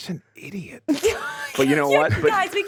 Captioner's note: laughing